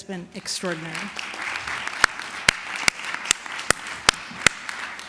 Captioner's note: applause